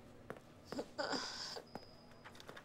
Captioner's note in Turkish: Ağlıyor